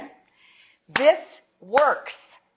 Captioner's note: hands clap